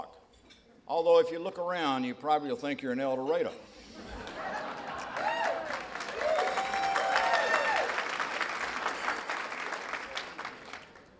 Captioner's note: laughter and applause